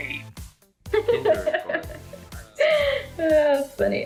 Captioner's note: laughing